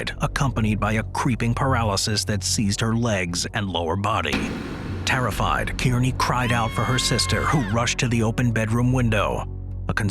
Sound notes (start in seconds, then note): 4.3 dramatic music; 6.4 screaming